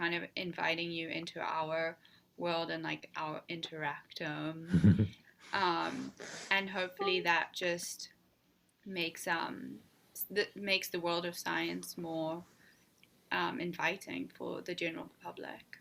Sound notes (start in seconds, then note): 4.7 laughs